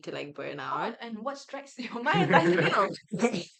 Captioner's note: laughs